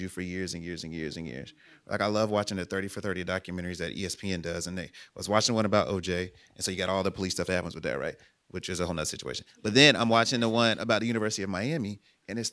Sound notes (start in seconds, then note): none